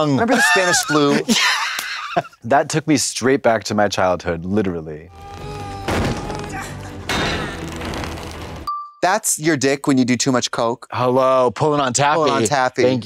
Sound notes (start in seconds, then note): 5.1 Luffy grunts; 5.8 metal and wood clash